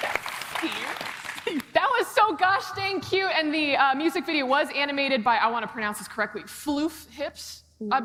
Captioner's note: applause